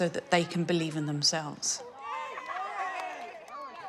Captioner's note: all cheering